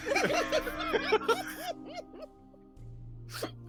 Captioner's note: all laughing